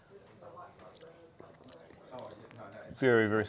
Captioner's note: both gulp